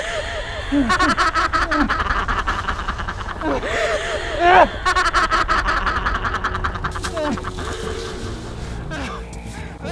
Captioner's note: insane laughing